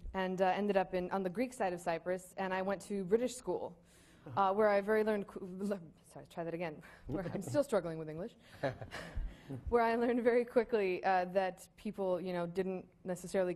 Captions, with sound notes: and ended up on the Greek side of Cyprus and I went to British school where I very learned, [stammering] sorry, try that again, I'm still struggling with English. [laughing] Where I learned very quickly that people didn't necessarily